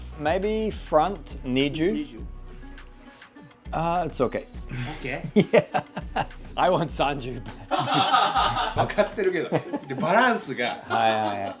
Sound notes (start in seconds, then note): 4.7 laughs; 7.7 all laugh